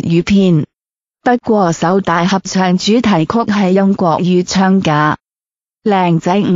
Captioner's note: Mandarin